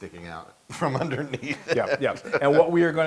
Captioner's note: laugh